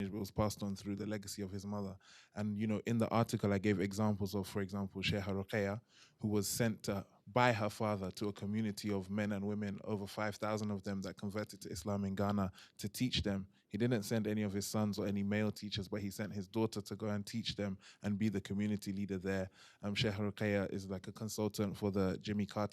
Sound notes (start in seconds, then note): 5.1 non-english; 19.9 non-english